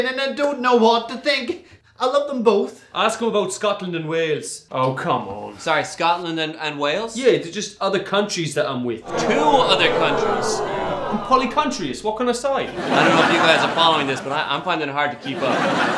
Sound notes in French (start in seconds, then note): 12.6 rires